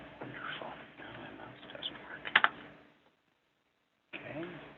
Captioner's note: speaks quietly